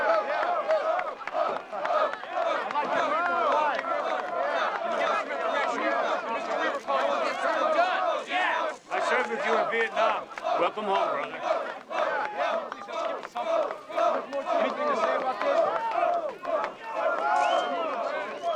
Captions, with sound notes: [crowd chanting] BO. [crowd chattering] I SERVED WITH YOU IN VIETNAM. WELCOME HOME, BROTHER. DO YOU HAVE ANYTHING TO SAY ABOUT THIS?